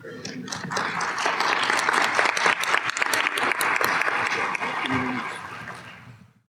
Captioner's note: applause